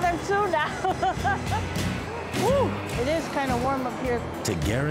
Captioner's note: laughing